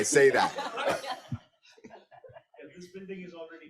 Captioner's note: group laughs